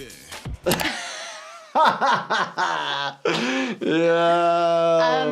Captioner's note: laughing